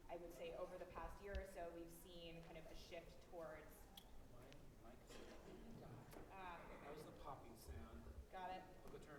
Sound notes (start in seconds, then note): 4.0 faintly speaking